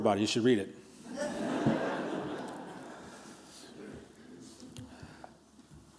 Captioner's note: laughter